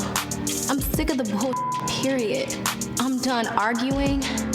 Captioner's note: beep